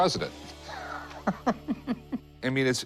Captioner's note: chuckles